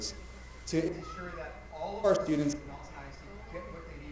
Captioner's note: mic cutting out